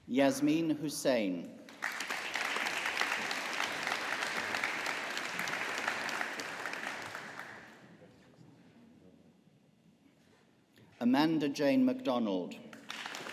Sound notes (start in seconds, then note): 1.7 audience applauding